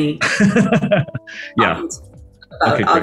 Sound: laughs

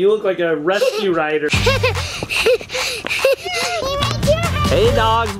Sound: children laughing

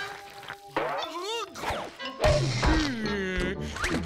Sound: groaning

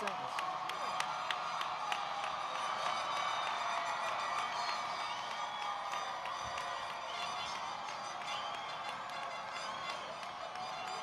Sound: cheering and Applause

